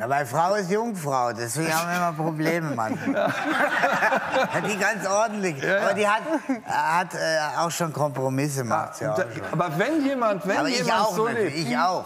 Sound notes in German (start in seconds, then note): 2.9 lacht